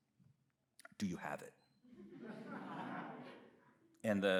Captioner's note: audience laughs